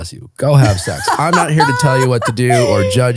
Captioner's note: laughing